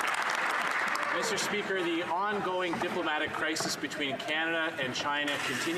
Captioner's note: some Applause